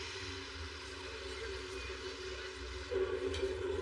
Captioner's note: people chchattering